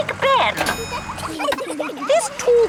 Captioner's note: kids giggling